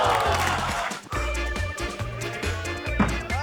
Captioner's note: exhales